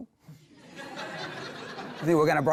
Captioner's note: laughter